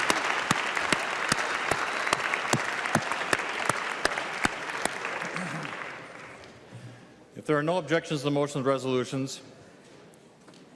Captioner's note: clapping